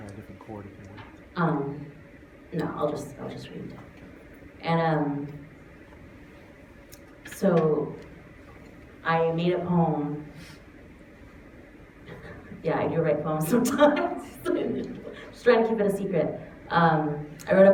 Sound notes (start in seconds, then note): 13.5 laughs